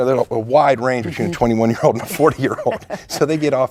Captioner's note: laughing